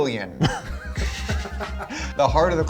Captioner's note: group laughs